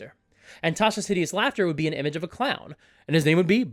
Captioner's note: normal voice; clown voice